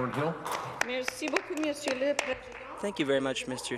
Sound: some applause

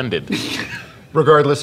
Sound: laughter

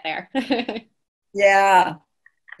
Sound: laughing

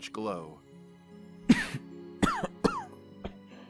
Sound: stifled coughing

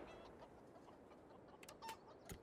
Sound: chickens clucking

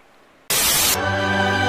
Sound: Static

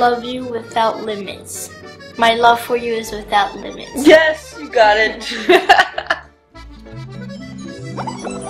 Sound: laughter

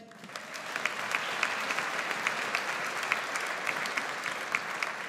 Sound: audience applauds

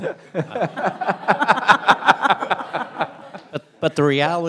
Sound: audience laughs

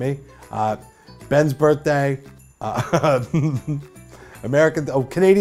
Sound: laughs

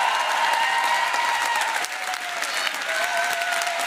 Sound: applause

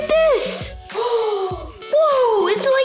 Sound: gasps

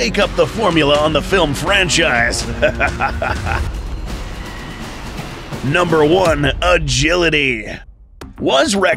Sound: evil laugh

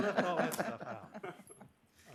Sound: laughter

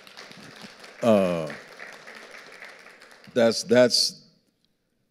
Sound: audience applauding

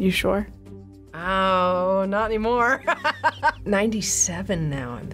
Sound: laughs

